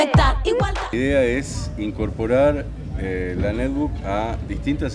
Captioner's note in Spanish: Voz de hombre